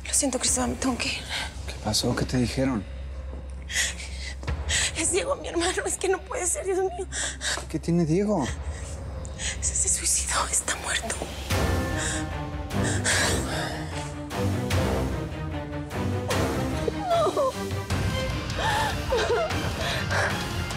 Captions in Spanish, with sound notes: LO SIENTO, CRISTÓBAL, ME TENGO QUE IR. >>¿QUÉ PASÓ? ¿QUÉ TE DIJERON? [ELLA SOLLOZA] >>¡ES DIEGO, MI HERMANO! ¡ES QUE NO PUEDE SER, SI ES UN NIÑO! >>¿QUÉ TIENE DIEGO? >>¡SE SUICIDÓ, ESTÁ MUERTO! [ELLA SOLLOZA] ¡NO!